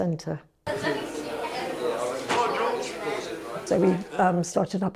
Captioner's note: people chattering